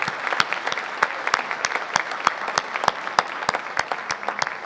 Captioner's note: audience applauding